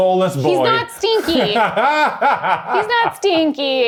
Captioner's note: laughing